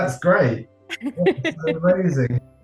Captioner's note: laughs